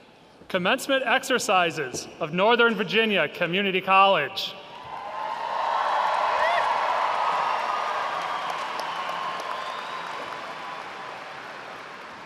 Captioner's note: audience cheers